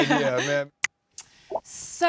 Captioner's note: fingers snapping